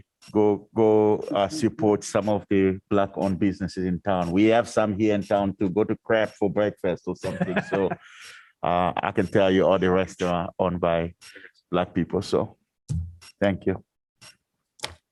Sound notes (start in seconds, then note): 7.2 laughter